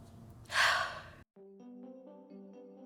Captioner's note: exhales